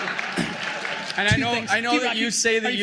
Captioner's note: laughter, applause